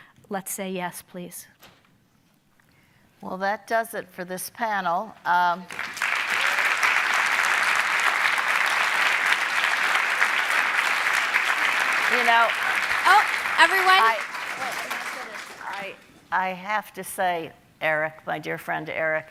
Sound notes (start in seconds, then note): 5.1 audience applauding